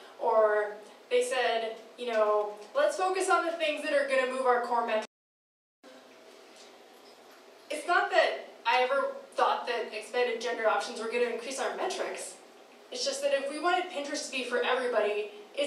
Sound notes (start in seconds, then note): 6.2 audio skipping